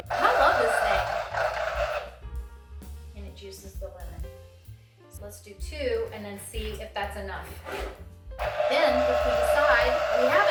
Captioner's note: juicer noise